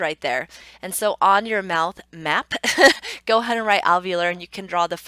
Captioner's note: laughs